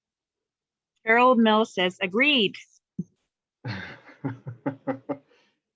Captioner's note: laughs